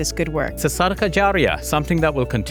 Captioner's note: speaking Arabic